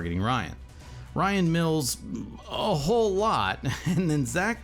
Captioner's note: laughs